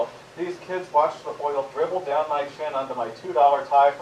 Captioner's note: none